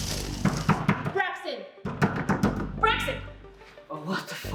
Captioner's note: knocking on door